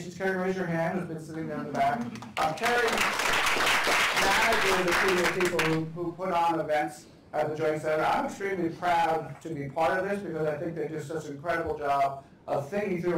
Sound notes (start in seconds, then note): 1.7 applause